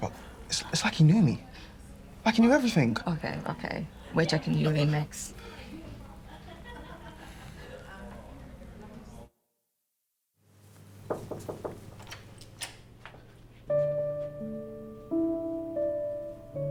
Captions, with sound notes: but it's like he knew me, like he knew everything. - Okay, okay, we're checking you in next. (staff chuckling) (staff chattering) (Diane knocking) (sentimental music)